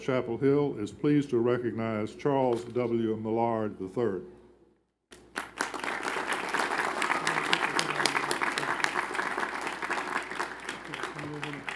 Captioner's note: applause